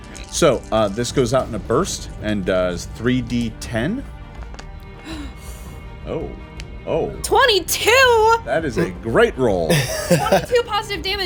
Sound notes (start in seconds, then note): 5.0 gasps; 9.7 laughing